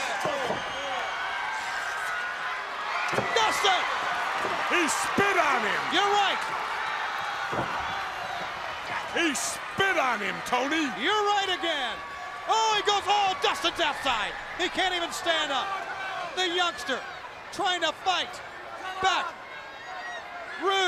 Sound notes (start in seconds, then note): 6.9 crowd cheering